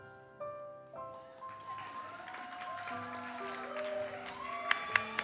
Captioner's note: audience cheers and applauds